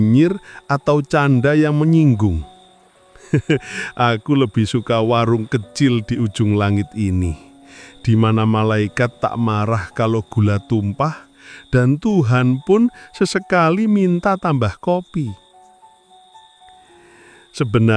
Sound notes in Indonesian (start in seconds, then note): 3.2 tertawa